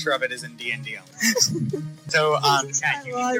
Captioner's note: laughing